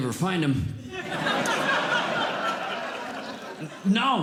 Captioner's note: audience Laughing